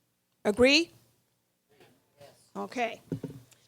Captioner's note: voiceover